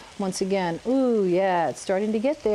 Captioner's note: sizzling